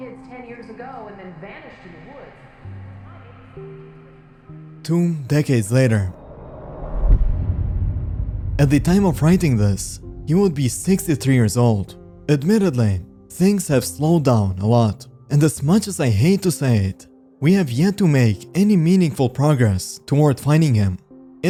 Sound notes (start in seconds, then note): 8.4 riser; 8.4 deep hit